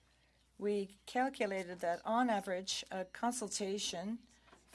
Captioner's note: speaking French